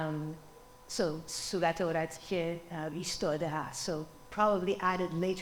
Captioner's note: speaking foreign language